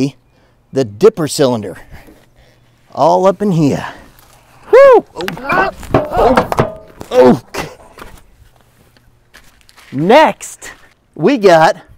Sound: screams

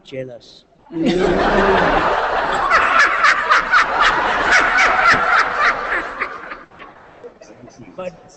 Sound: laughter

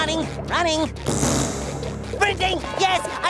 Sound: raspberry sound

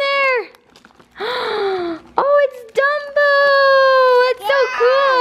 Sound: gasp

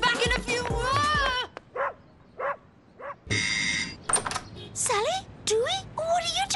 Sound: dog barking; doorbell ring

